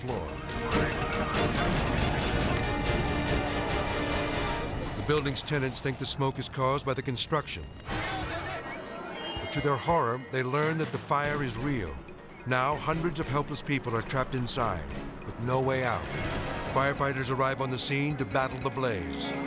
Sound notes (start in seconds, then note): 0.2 tense music continues; 7.9 people shouting in foreign language; 19.2 rescuers shouting in foreign language